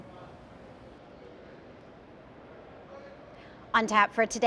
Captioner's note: people talking